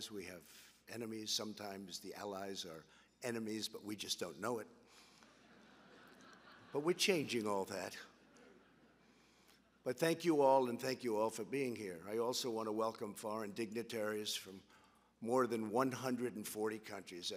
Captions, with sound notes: We have enemies. Sometimes the allies are enemies, but we just don't know it. (laughter) But we're changing all that. But thank you all, and thank you all for being here. I also want to welcome foreign dignitaries from more than 140 countries.